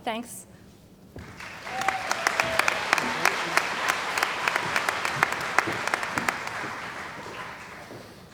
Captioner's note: applause